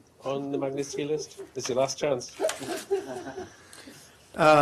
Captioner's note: laughter